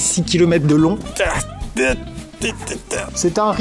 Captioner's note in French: gémissements dus à l'effort physique